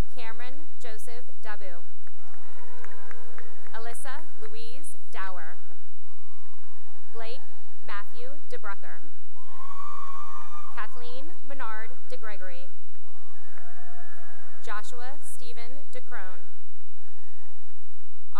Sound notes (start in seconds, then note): 2.0 cheering and applause; 5.3 cheering and applause; 9.4 cheering; 12.8 cheering and applause; 16.5 cheering and applause